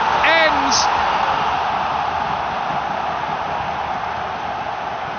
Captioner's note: crowd yelling